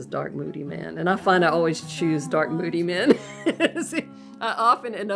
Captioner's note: laughs